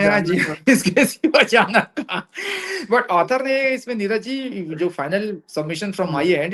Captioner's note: laughs